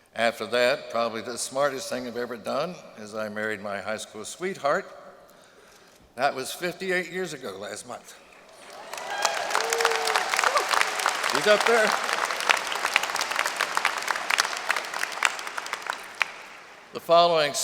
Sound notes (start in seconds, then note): 8.5 applause